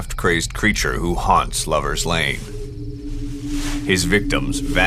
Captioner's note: leaves rustling